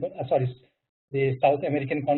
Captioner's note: murmurs